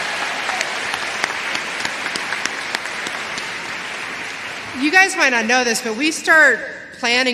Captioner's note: applause